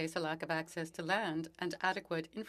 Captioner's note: speaking French